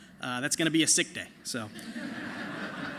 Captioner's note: laughter